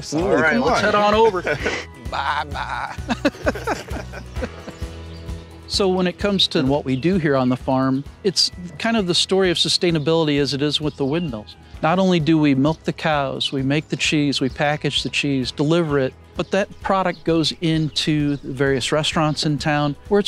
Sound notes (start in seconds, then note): 3.4 laughing